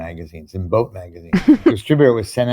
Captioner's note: laughs